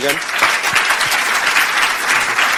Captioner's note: audience applause